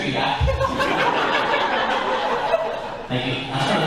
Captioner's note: laughter